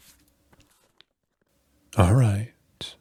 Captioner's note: crinkling